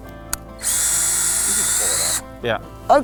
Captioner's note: drill whirling